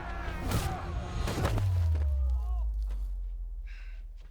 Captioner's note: kick thuds